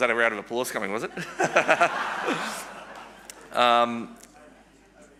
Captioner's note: everyone laughs